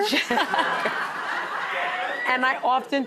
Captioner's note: audience laughs